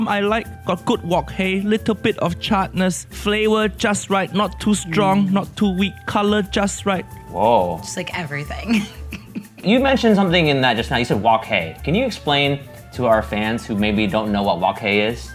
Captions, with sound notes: I like a good wok hei. Little bit of charred-ness. Flavor just right. Not too strong. Not too weak. Color just right. - Whoa. - Just like, everything. (laughs) - You mentioned something in that just now. You said wok hei. Can you explain to our fans who maybe don't know what wok hei is?